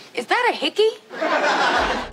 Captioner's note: laughing